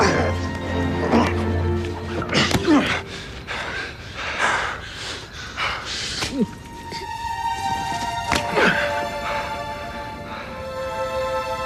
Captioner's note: both grunting